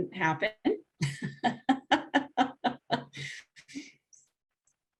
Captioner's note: laughing